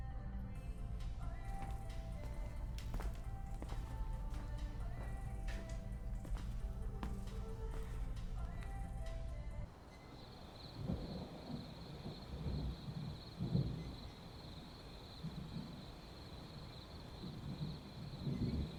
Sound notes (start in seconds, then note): 0.2 music continues in background; 9.7 crickets chirping; 10.2 thunder rumbling